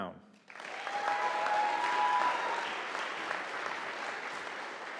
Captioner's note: audience applauding